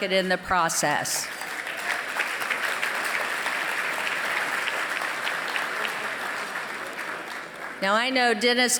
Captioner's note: applause